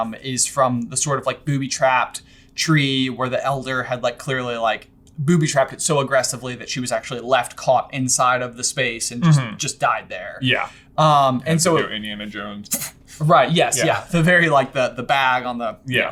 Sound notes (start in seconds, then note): 12.6 exhales sharply